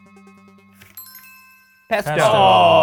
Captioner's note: suspenseful music; list chimes